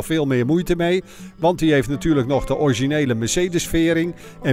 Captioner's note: voiceover